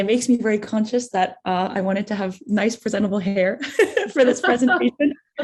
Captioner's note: laughs